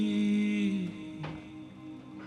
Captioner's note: stairs creak